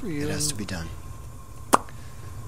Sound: smacks lips

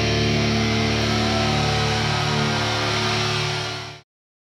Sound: crowd cheering

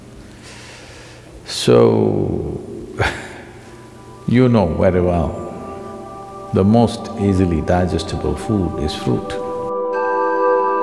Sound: laughs

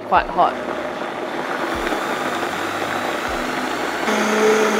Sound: blender whizzes

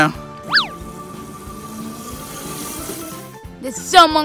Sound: motorcycle engine humming

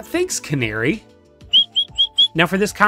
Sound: bird swears

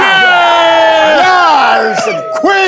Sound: sound of cheering

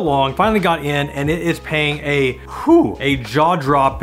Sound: sighs

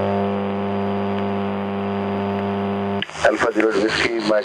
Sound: constant background static noise

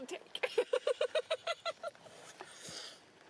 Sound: laughs Harder

